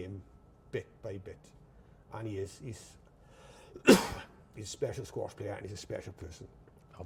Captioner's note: coughs